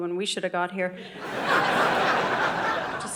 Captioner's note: audience laughing